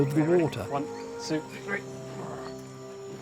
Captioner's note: strains